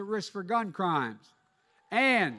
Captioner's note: applause